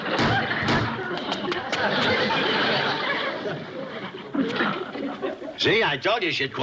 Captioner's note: loud pounding